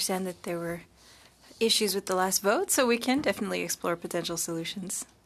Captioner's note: speaking French